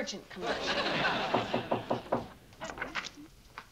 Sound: knocking

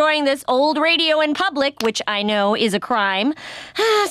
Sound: sighing

